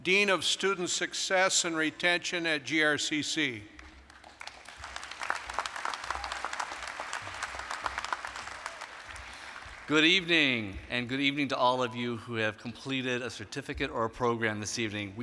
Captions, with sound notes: DEAN OF STUDENT SUCCESS AND RETENTION AT GRCC. (applause) >> GOOD EVENING, AND GOOD EVENING TO ALL OF YOU WHO HAVE COMPLETED A CERTIFICATE OR A PROGRAM THIS EVENING.